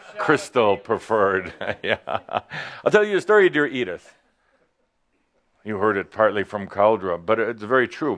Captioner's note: chuckles